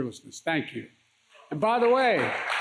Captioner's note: applause